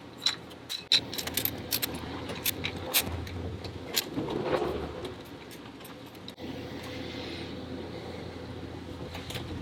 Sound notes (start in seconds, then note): 1.9 twisting sounds